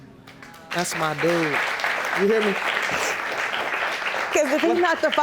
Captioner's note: audience applauding